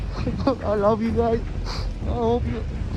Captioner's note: sobbing